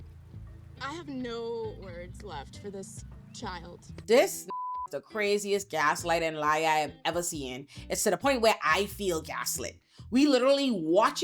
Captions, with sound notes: I have no words left for this child. This (beep) is the craziest gaslight and lie I have ever seen. It's to the point where I feel gaslit. We literally watching